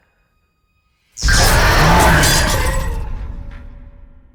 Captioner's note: demon roars